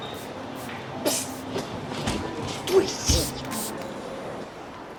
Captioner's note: whispers angrily; spray sound